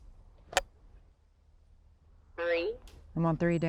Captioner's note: radio clicks